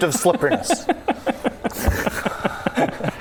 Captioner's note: genius laughter